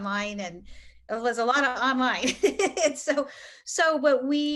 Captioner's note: laughs